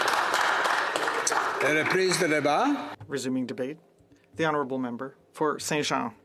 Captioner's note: some Applause